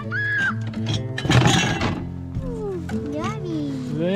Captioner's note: cups clattering